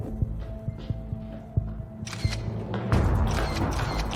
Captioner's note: shutter clicking; suspenseful music